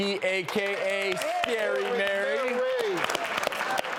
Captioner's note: clapping